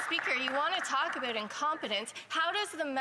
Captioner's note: some Applause